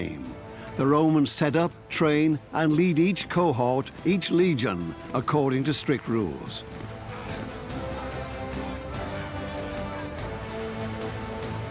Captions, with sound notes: The Romans set up, train, and lead each cohort, each leg, according to strict rules. (soldiers shout)